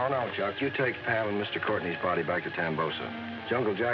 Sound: none

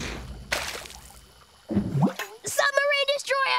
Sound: bubbling

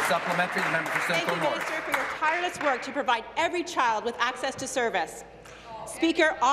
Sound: applause

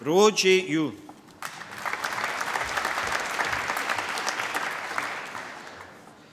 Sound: applause

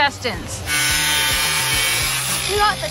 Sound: saw buzzing

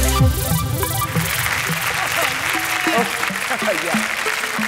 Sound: audience applauding; laughs

